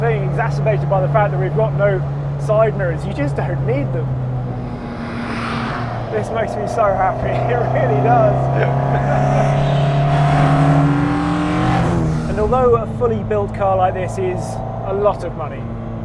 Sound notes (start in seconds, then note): 8.4 laughs; 9.0 engine revving